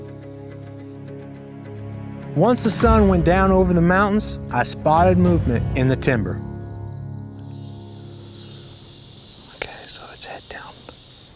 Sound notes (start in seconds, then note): 7.2 whispering